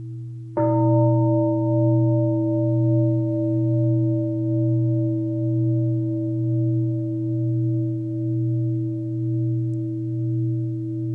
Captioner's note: deep bell sound